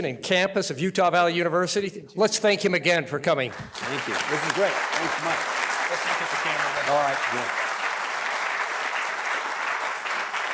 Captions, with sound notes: and campus of Utah Valley University, let's thank him again for coming. (audience applauding) - Thank you this is great. Thanks so much. (audience applauding)